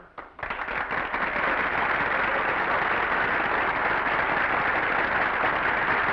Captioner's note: audience applauding; audience cheering